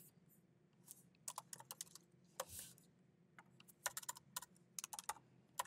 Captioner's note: keyboard clacking continues